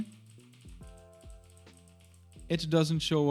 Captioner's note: keyboard clicks